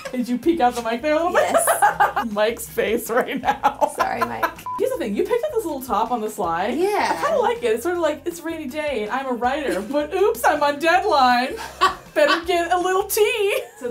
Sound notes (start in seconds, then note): 1.3 laughing; 1.3 laughs